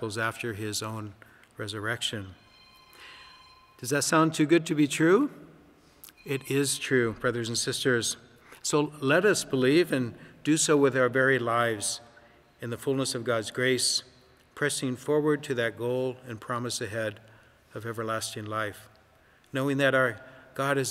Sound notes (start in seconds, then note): 2.4 phone ringing